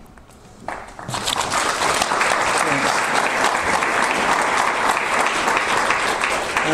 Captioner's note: audience applause